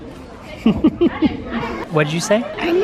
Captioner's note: laughs